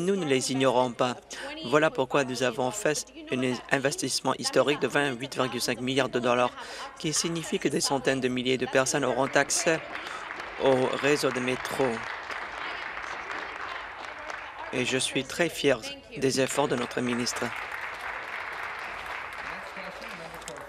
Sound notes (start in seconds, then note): 13.8 applause